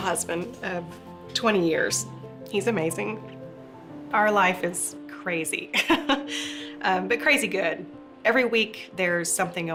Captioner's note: chuckles